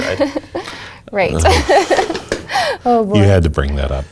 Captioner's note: laugh